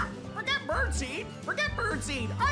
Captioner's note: squawks